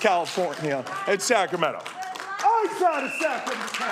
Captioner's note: applause